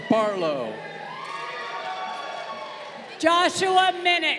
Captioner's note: crowd cheering